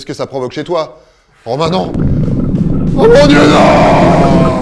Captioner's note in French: bruit de volcan